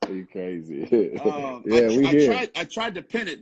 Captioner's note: laughing